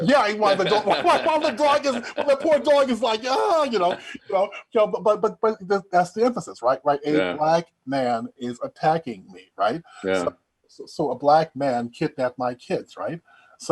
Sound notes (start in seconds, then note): 0.5 both laughing; 3.2 wailing